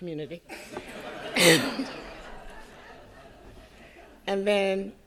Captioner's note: audience laughing